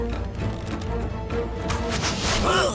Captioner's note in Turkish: Ok atma sesleri; İnilti sesi